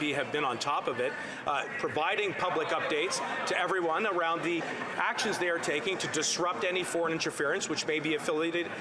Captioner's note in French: voix de l'interprète